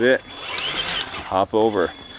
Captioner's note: engine roaring